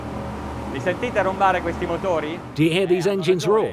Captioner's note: speaking in foreign language